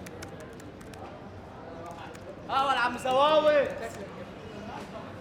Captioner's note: speaking Arabic